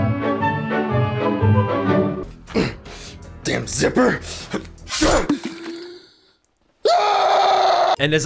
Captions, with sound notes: Um, Damn Zipper! Duh! *Slice* AAAAAAHHHHHHH